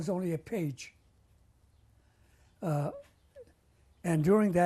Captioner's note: pauses for 3 seconds